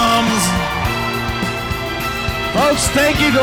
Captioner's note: bright triumphant music; crowd cheering